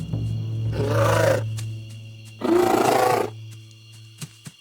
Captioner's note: growling